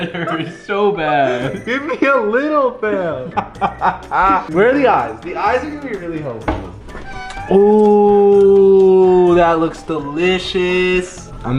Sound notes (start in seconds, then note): 2.9 chuckles